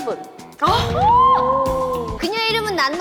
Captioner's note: ahhhhh